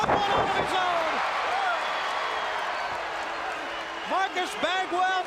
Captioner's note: crowd cheering